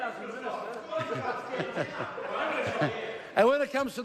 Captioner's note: laughs